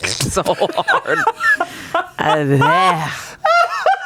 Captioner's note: laughs